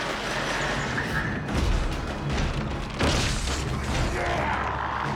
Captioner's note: pounding